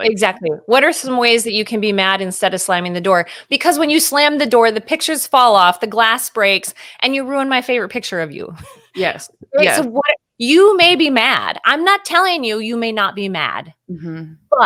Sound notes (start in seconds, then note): 8.5 chuckles